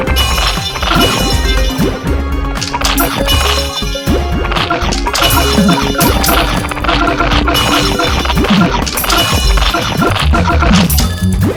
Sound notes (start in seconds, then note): 8.8 zombie killer sound